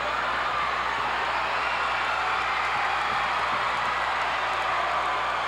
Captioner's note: audience cheering continues